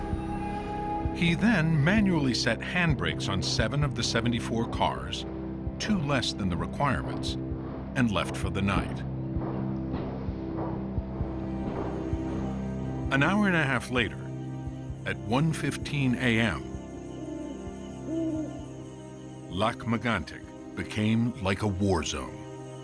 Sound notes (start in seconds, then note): 16.0 owl hooting